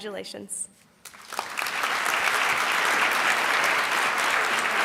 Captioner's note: audience applauds